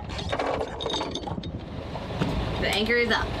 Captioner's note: chain rattling